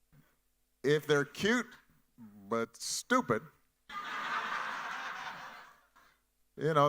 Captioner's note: audience laughing